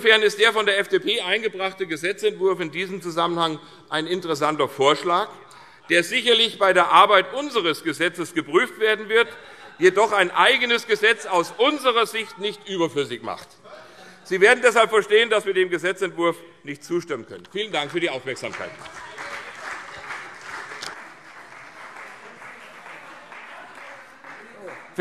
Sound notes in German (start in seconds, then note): 9.2 Lachen; 17.8 Beifall CDU und BÜNDNIS 90/DIE GRÜNEN - Zurufe Freie Demokraten